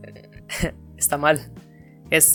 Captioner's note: chuckles